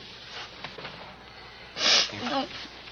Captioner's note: Frances sniffling